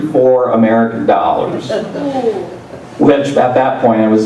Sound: laugh

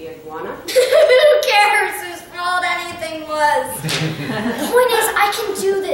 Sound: laughing

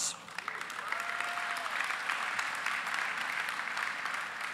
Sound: applause

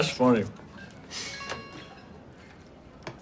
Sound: cell phone chimes

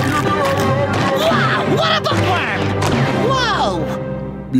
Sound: groaning

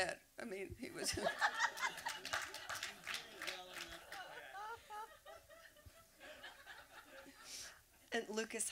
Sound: laughter

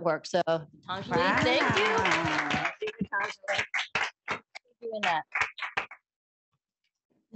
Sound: applause

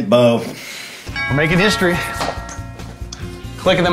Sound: doorbell rings

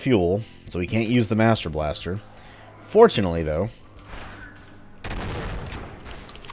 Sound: boom

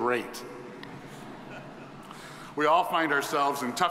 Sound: audience chuckling

